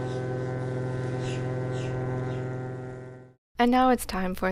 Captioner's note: airboat sound